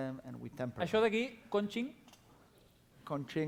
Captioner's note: non-english speech